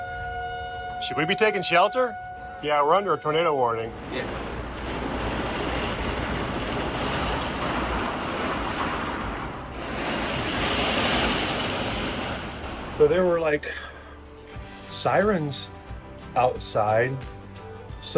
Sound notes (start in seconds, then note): 3.9 rain gushing; 5.0 wind gusting